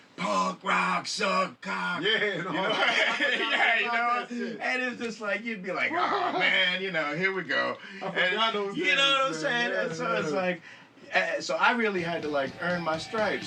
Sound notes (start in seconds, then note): 2.0 ambos riendo